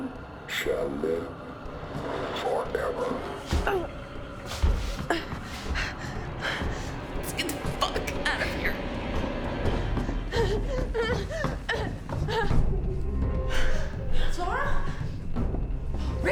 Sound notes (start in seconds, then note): 4.1 Claire grunts; 10.7 Claire gasping